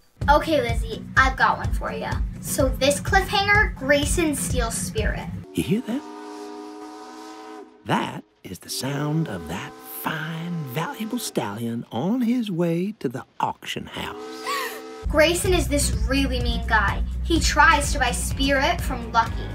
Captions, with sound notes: OK, Lizzie, I've got one for you. So this cliffhanger, Grayson steals Spirit. You hear that? [steam train whistling] That is the sound of that fine, valuable stallion on his way to the auction house. (GASPS). Grayson is this really mean guy. He tries to buy Spirit from Lucky,